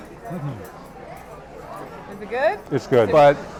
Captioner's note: laughing; humming